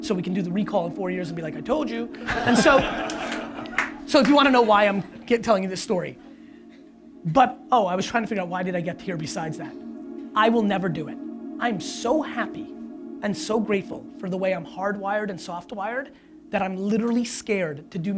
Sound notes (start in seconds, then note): 2.2 audience laughs